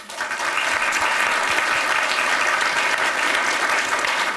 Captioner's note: applause